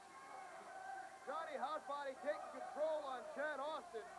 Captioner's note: crowd chatter